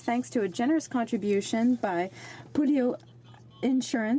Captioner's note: speaking French